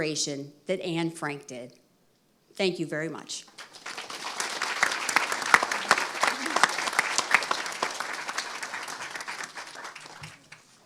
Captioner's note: applause